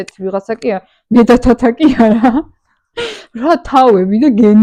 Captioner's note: giggle